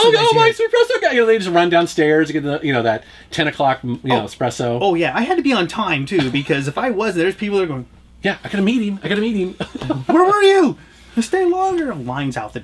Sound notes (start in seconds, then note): 9.4 laughs